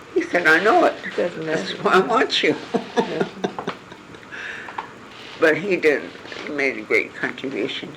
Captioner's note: laugh